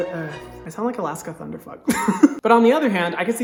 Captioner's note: chuckles